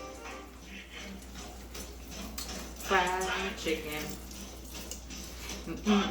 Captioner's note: mumbling and hummimg